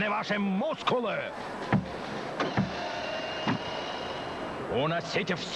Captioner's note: stomp